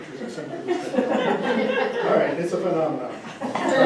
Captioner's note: audience laughing